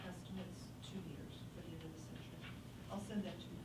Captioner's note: faintly speaking